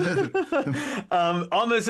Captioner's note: both Laughing